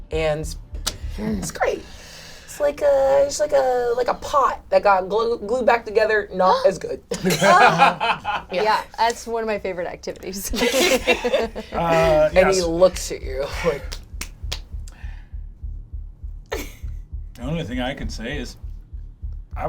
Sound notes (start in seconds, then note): 7.1 laughs; 10.5 all laugh